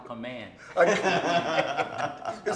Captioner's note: laughing